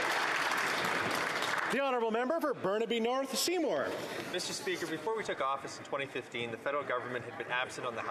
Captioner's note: applause